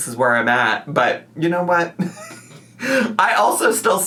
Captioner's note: laughs